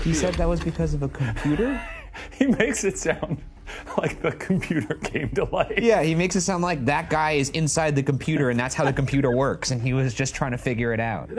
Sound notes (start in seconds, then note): 1.3 laughs